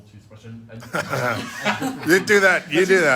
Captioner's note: laugh